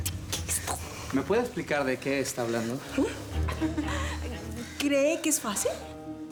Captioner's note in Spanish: Susurra